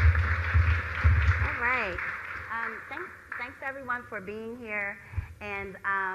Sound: applause

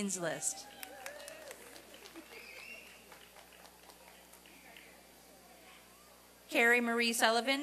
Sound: applause and cheering

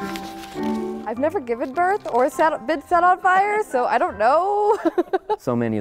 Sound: laugh

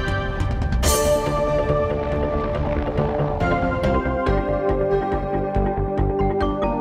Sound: helicopter blades whirring

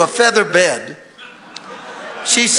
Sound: congregation laughing

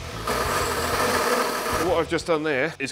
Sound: lathe rasps

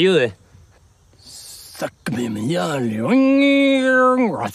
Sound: foreign language

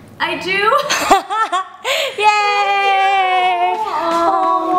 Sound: laughs

